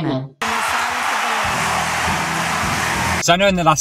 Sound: applause

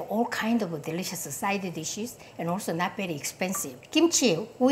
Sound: none

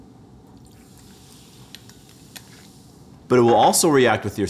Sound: acid sizzling

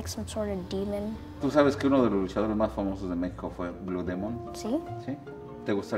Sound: speaking foreign language

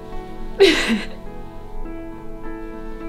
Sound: Andrea sobbing

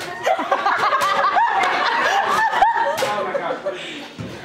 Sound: audience laughter, illegible chatter

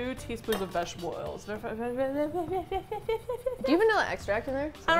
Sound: stuttering

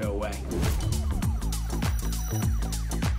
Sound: whoosh

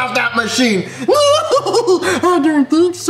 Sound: laughs

